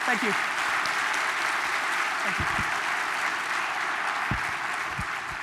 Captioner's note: audience applause